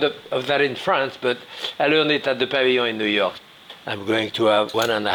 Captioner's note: sniffs